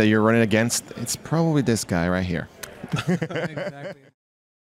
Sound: laughs

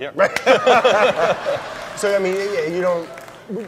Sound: laughing

